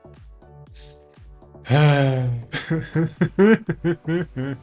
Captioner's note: sighing; laughing